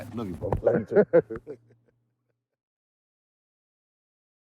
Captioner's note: both laughing